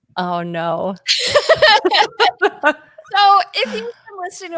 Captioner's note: both laugh